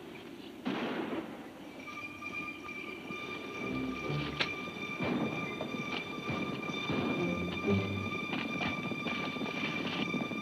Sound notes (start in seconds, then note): 0.6 gun bangs; 2.1 tense music